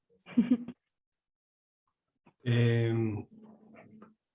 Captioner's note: giggles